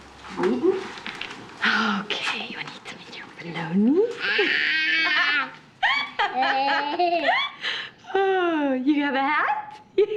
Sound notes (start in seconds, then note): 3.9 molly exclaiming; 5.8 erica laughing; 9.9 giggling